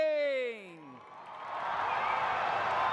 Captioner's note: cheers and applause